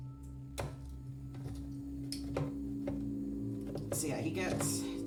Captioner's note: a can opener turning